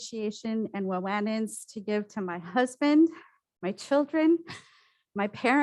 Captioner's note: foreign language